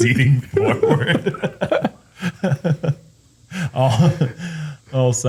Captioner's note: laughter